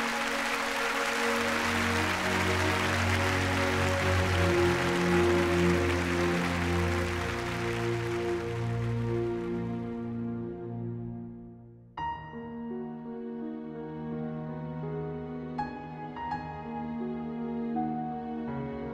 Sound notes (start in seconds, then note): 7.0 audience applauding; 15.5 somber music